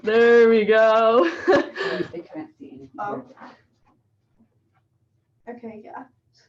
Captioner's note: laughing